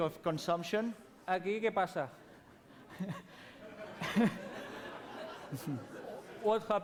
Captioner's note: non-english speech